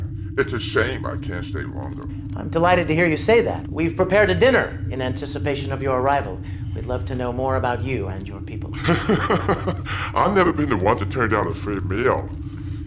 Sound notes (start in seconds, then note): 8.7 laughs